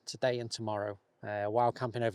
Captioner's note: none